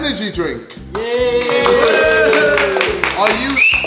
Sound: group cheering

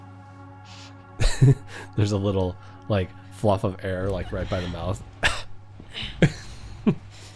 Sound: coughs

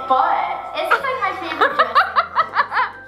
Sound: laugh

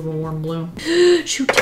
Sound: gasps

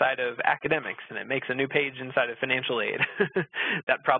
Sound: laughs

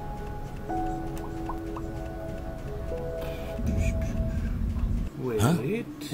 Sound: pops lips

